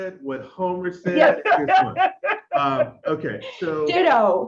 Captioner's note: laughs